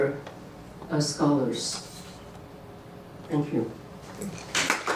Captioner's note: applause